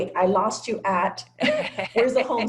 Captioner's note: laugh